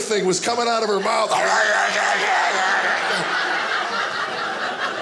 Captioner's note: evil snarling; audience laughing